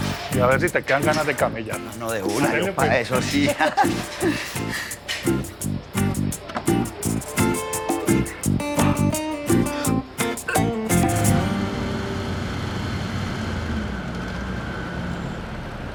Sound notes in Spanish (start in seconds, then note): 3.2 Risas; 10.7 Ruido del vehículo